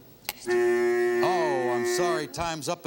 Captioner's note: buzzer